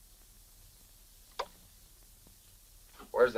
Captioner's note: switch clicks